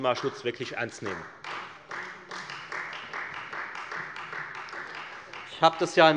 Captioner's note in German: Beifall Freie Demokraten